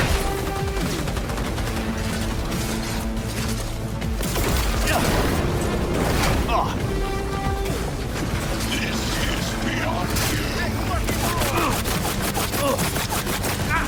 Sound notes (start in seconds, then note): 0.0 gunshots boom; 0.2 dramatic music; 5.0 PC grunts